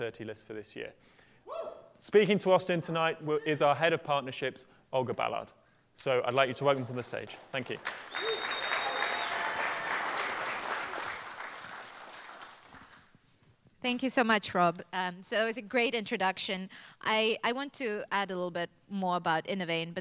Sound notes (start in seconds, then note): 8.0 applause